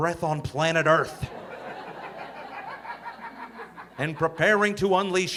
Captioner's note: audience laughing